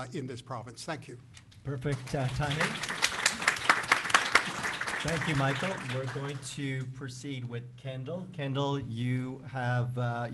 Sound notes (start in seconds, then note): 1.7 speaking native language; 1.8 applause